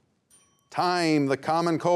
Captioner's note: timer rings